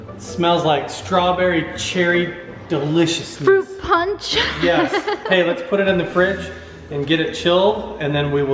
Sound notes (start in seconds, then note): 4.4 chuckles